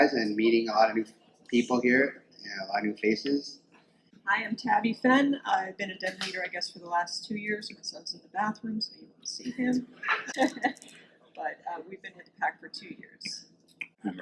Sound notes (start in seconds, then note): 9.4 laughs